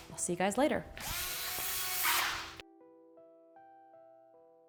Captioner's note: drill whirring